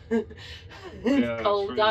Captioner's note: laughs